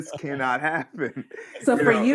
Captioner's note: laughter